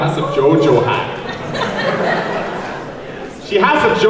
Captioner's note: audience laughs